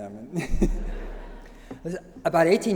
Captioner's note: laughter